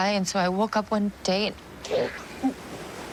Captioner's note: gagging